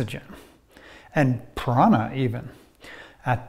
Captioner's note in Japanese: 息吹